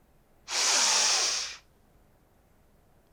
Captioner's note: inhaling